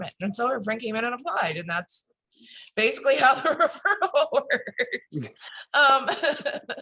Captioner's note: laughs